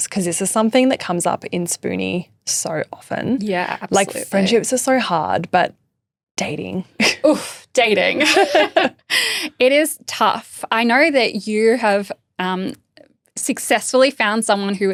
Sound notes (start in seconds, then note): 8.1 laughing; 8.1 both laughing